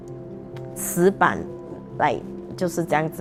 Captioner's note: in Mandarin